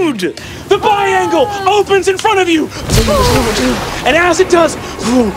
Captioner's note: mimics reverberations